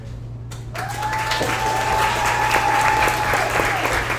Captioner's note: audience applauds